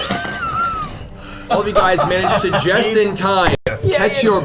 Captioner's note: all laugh